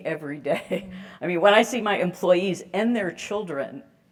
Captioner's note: laugh